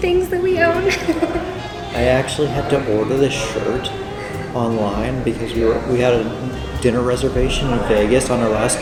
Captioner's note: laughter